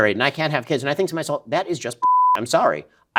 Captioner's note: beep